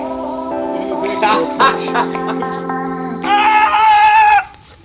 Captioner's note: upbeat music; man laughs; man yells